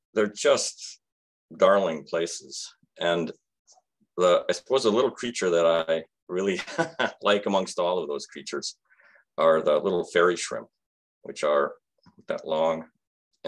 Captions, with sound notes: they're just darling places. And I suppose the little creature that I really (chuckles) like amongst all of those creatures are the little fairy shrimp, which are that long,